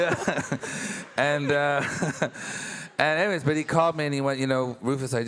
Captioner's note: laughs